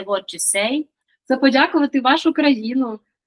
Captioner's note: Ukrainian